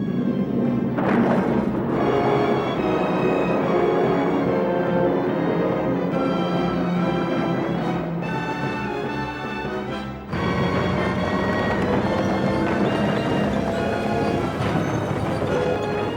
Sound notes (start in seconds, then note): 0.0 plane engines roaring; 0.8 bombs exploding